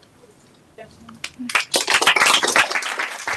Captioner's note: applause